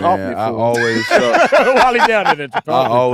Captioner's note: Jay and Ahrii laughing